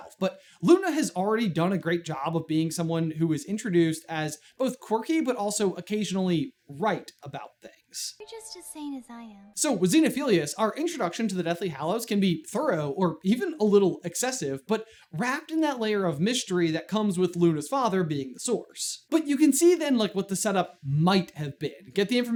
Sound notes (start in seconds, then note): none